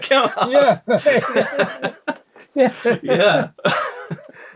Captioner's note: laughter